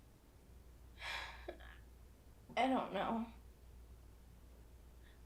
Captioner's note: Casey breathing heavily